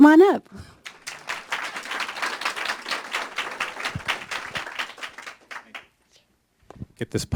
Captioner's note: applause